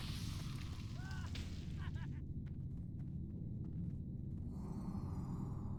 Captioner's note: laughter